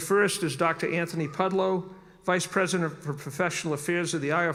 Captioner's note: none